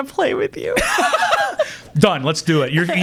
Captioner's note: laughing